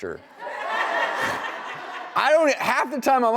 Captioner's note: audience laughing